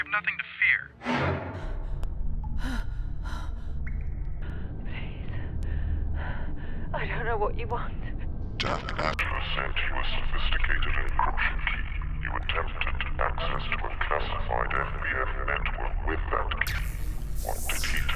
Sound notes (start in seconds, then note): 0.0 dramatic music; 1.0 metallic sound; 3.3 gasps and pants; 3.4 water drips